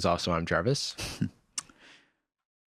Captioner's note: chuckles